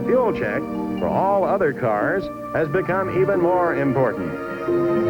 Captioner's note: engines roaring